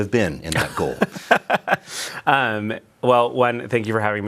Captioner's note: laughs